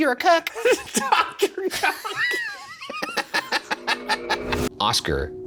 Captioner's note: Shane and Ryan laughing